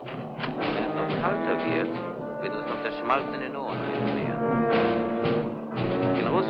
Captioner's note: speaking in a foreign language